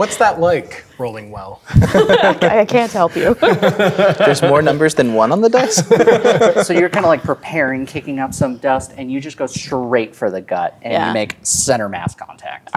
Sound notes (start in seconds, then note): 0.0 laughing; 1.7 players laughing